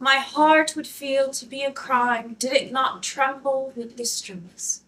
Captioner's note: none